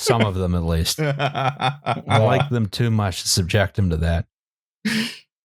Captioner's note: laughs; laughs, a bit hysterically